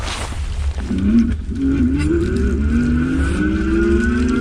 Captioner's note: motor revving